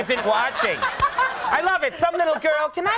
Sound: Molly laughing

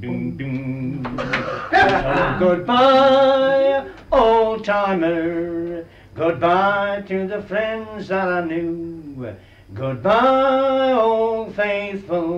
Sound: laughter

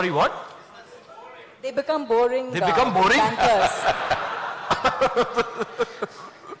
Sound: laughter

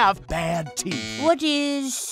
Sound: buzzer

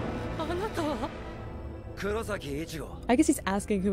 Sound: speaking in foreign language

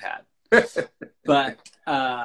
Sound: laughs

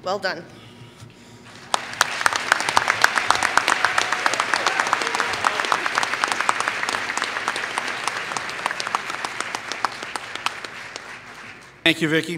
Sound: applause

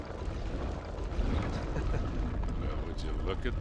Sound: laughs

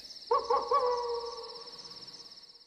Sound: wolf Howling

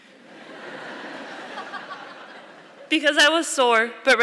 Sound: audience laughing

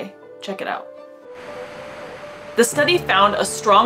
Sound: background music; waves crashing sound

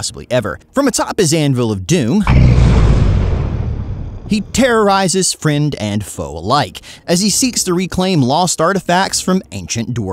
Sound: thunder sfx

